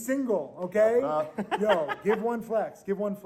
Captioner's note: laughing